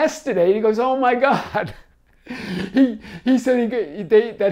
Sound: laughs

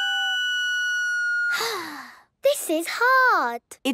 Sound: off-key; sighing

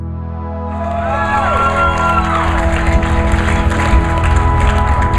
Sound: upbeat music; crowd applauds

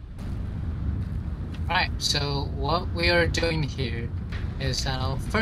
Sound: on the radio

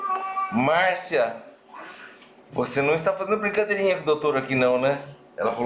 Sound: laughs

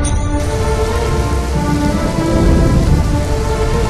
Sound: raining and lightning

